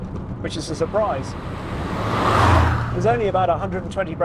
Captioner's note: car roaring